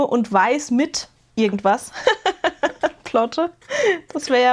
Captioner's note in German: gelächter